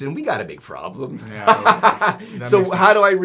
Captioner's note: laughing